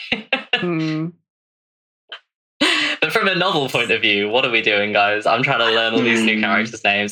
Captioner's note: laughs